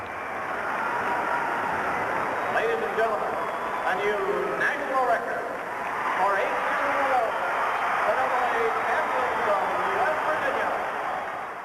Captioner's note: crowd cheering